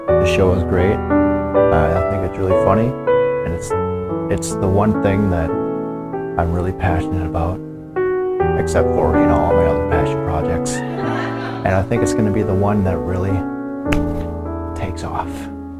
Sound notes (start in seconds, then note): 10.8 laughter